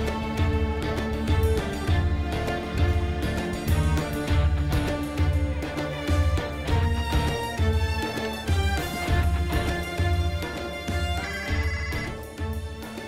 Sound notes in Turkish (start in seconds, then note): 11.2 Telefon çalıyor